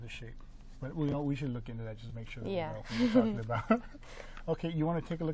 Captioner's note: laughing